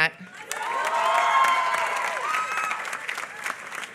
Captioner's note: applause